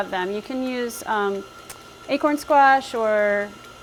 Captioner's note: in foreign language